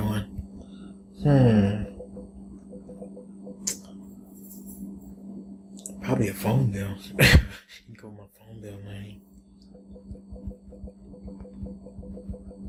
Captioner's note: laughs